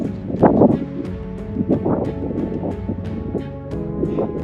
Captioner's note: wind blowing